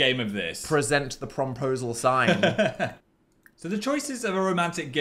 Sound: laughs

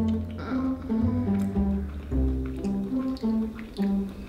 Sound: groans

